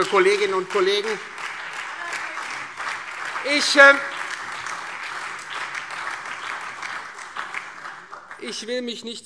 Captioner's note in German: Beifall Freie Demokraten und SPD